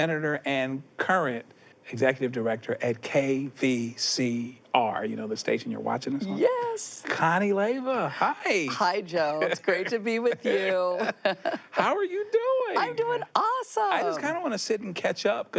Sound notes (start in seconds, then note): 9.3 laughs